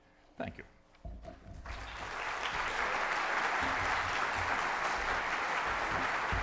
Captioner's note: applause